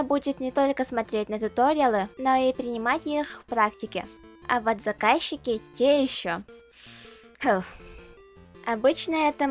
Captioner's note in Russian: вздох